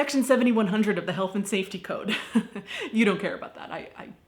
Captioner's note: laughing